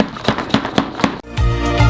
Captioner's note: slamming Plastic; intro Music